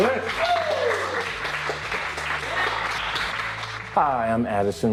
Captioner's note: applause